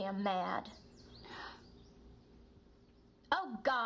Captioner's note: soft gasping